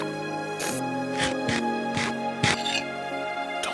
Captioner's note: Minecraft eating